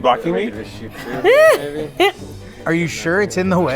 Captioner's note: laughs